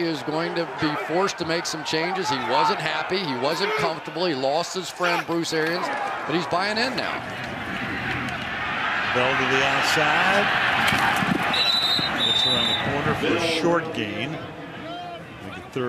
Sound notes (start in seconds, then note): 11.5 whistle